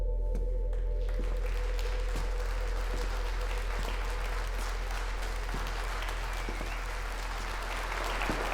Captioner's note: applause